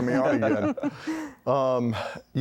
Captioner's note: laughter